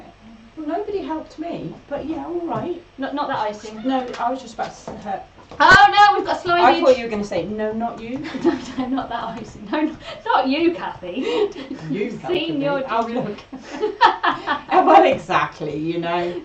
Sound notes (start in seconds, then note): 8.2 laughs